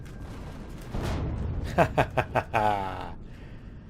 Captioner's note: turrets firing; explosion; laughs